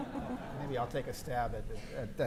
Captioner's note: audience chuckling